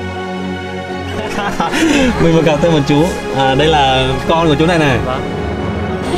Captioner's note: chuckling